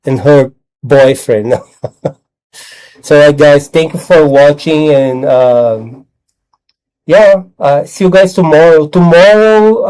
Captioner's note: laughter